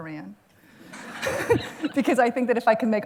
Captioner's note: laughter